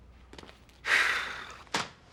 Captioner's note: sighs